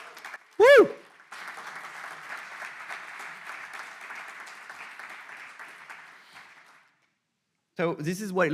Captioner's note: audience applauds